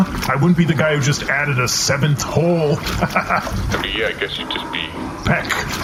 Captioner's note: chuckles